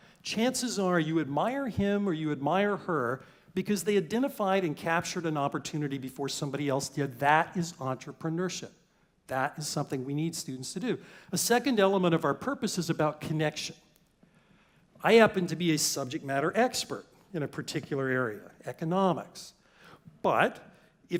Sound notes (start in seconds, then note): none